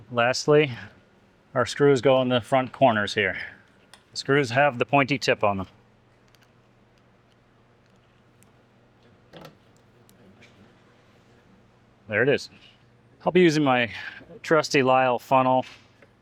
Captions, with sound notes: Lastly, our screws go in the front corners here. The screws have the pointy tip on them. [silence] There it is. I'll be using my trusty Lyell funnel.